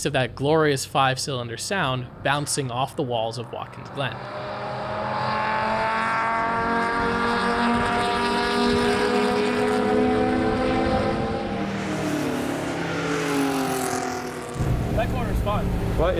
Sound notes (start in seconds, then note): 4.5 engine revving